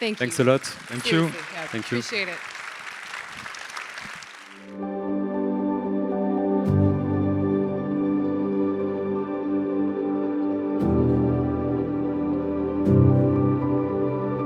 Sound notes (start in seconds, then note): 2.5 audience applauds; 4.6 ominous music